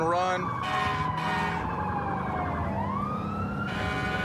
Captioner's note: emt sirens blaring